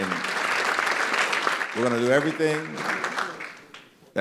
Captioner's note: applause